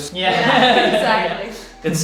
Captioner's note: laughing